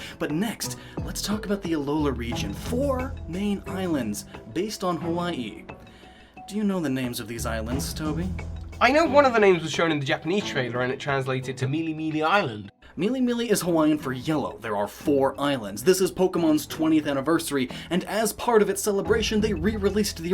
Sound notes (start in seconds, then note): none